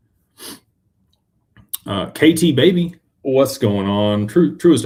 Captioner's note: snorts